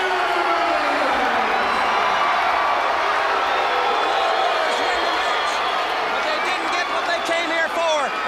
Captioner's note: crowd cheering